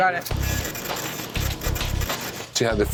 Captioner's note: printer buzzing